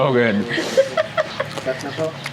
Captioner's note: laughs